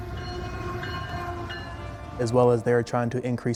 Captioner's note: train bells